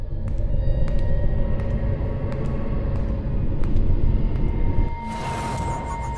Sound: footsteps

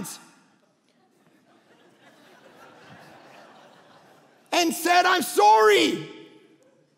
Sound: congregation laughing

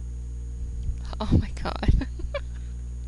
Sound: laughs

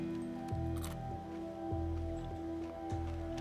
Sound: crunching

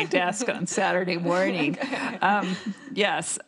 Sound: all laughing

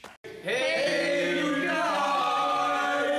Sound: crowd

